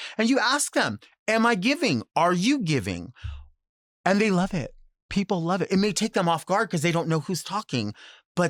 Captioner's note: none